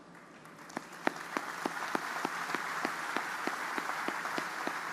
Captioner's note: audience applauding